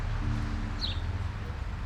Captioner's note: birds chirping